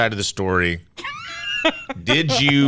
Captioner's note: laughter